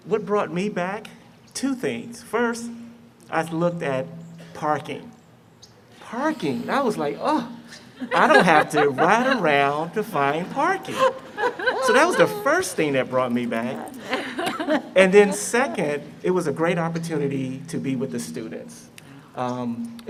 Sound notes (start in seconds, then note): 10.8 laughter